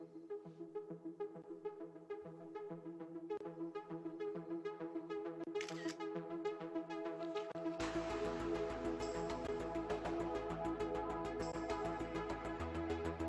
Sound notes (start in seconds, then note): 5.6 camera shutter clicks